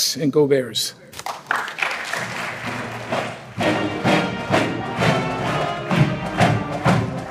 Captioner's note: applause